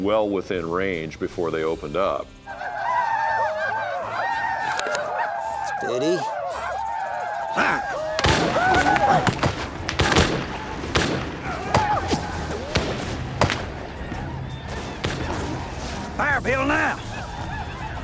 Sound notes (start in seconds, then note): 2.4 whooping; 7.9 gunfire